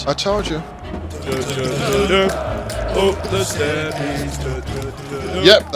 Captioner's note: iconic football chants